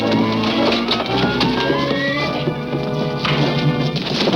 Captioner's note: furniture crashing